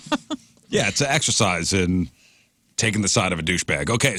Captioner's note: laugh